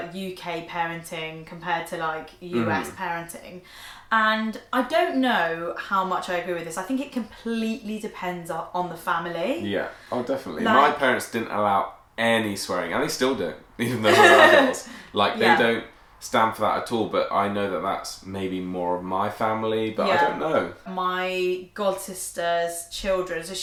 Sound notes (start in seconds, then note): 14.0 laughs